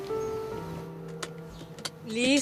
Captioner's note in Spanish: Clic de cinto de seguridad